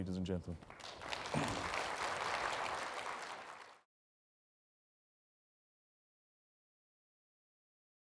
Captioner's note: applause